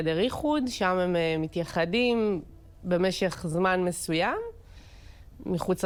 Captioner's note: Hebrew